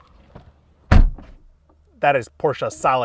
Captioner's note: door slams